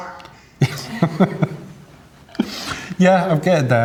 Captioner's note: laughs